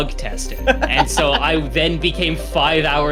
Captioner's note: laughs